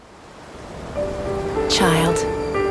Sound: wind blowing

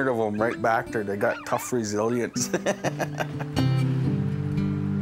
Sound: laughs, pups whine

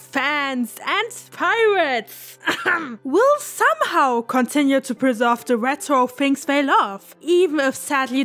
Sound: cough

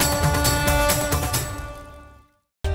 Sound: conch blowing

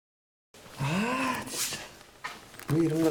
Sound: angry voice

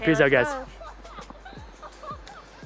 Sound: laughter

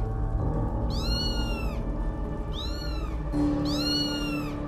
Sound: ominous music; kittens mewling

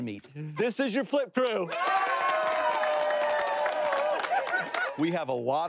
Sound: everybody cheering

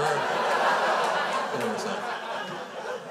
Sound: crowd laughs

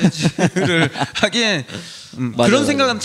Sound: laughs

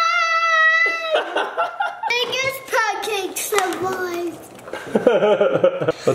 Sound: laughs

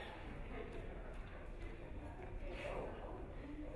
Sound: crowd chattering

